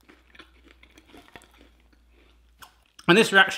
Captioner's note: toast crunches; crunchy chewing